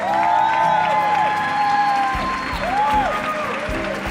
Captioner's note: cheering; applause